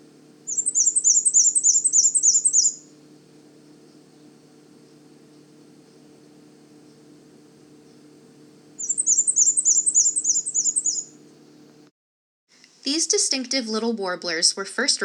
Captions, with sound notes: [Black-and-white warbler singing] [short pause] [Black-and-white warbler singing] These distinctive little warblers were first